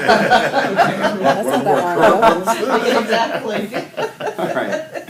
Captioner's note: laughing